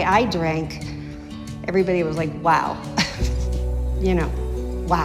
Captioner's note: laughs